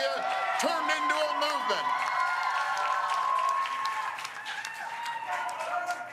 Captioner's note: cheers and Applause